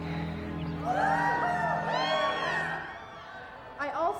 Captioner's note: crowd cheering